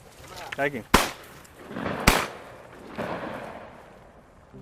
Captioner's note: booming